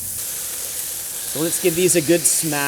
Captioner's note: burgers sizzle